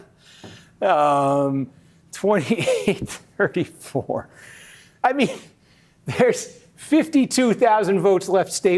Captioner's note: laughter